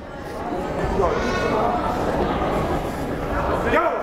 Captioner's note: yelling